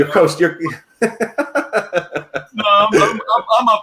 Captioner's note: laughs